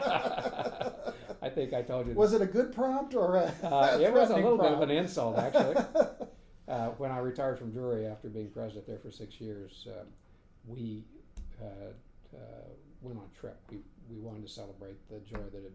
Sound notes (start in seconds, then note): 0.0 laughing; 3.4 laughing